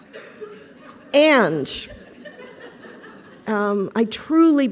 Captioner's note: laughter